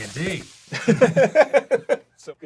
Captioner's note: laughs